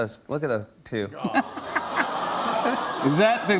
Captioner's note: audience awws